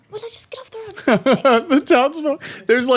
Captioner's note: laughing